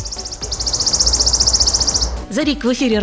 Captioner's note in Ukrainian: спів пташки